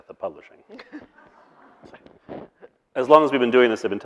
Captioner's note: snickering